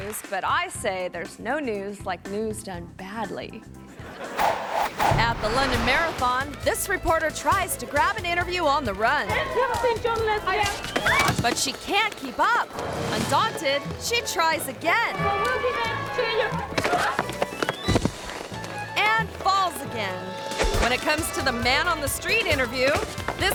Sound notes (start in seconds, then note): 3.9 audience laughing; 10.8 screams